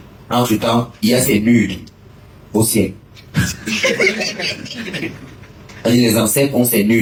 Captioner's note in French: rires